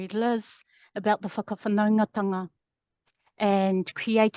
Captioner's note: speaking in foreign language